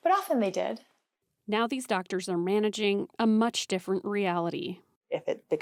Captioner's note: voice-over